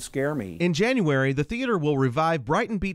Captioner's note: voiceover